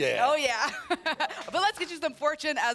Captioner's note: laughs